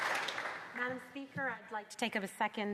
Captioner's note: some Applause